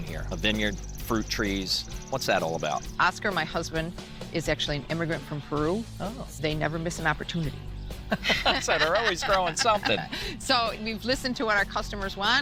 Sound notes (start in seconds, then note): 8.0 both laughing